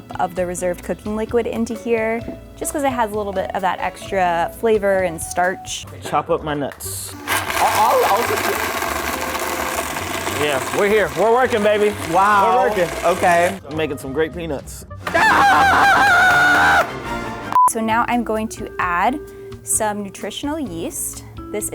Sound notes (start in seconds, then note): 7.1 sound of blender; 7.2 speaks Gibberish; 15.0 screaming